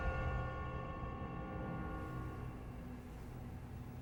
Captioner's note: bell tolling